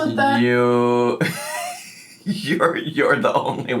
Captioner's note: laughing